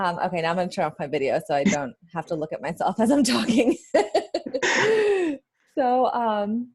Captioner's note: laughs